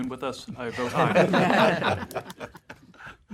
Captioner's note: laughter